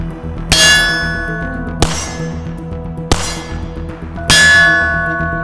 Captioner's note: target rings